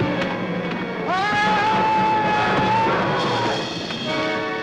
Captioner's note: loud screaming